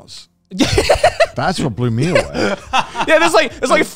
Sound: laughing

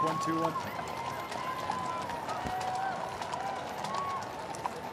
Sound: cheering and Applause

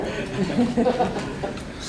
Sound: laughs

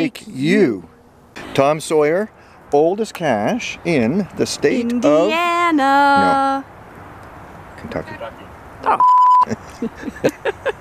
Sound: laughter

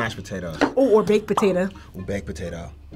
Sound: bubble popping

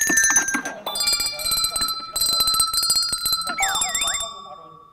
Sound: Vigilant shaking hand bells

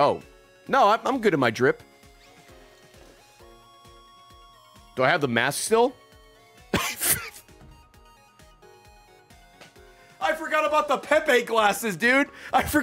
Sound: laughs

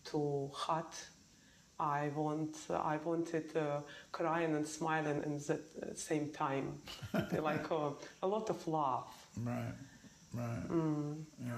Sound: laughs

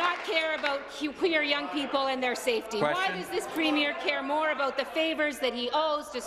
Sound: applause

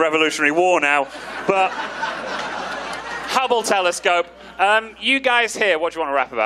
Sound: audience laughing

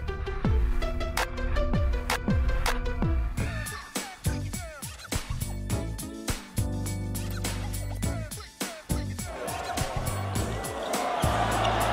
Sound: cheers

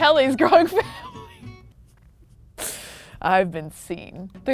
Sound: laughs

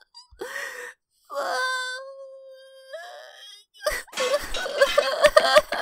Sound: sobs

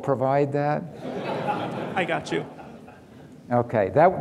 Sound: audience laughing

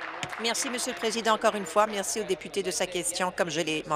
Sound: applause

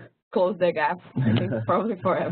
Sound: laugh

